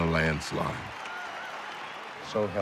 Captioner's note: crowd cheering